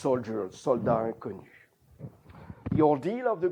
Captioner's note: non-english